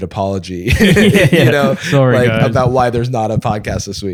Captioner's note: laughter